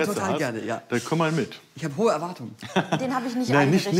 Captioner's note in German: Lachen